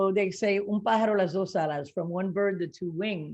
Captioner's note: speaking in foreign language